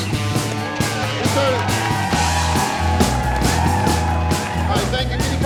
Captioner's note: crowd cheering